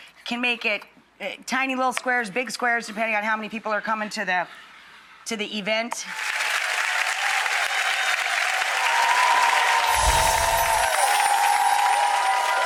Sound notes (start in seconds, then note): 6.0 audience applauds